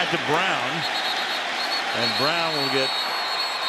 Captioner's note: whistle